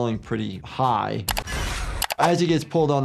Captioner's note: keyboard clacking